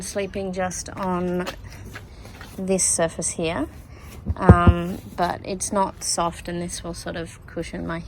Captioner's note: knocks on surface